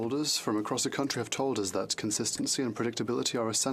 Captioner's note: speaking French